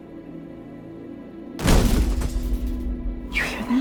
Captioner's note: loud bang